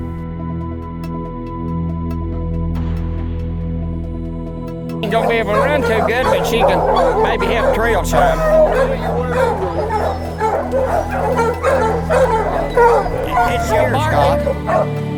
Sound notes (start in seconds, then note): 9.1 dogs barking